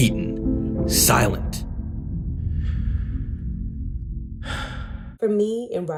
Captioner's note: inhale, exhale